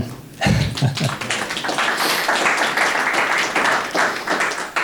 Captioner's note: crowd applauding